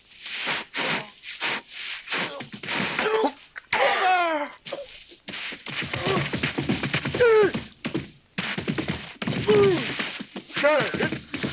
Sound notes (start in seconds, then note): 4.7 hooves thudding; 5.7 Pedro groaning